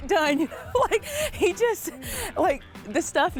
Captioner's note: laughing